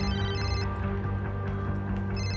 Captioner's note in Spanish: Suena el celular